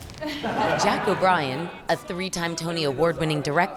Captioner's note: laughing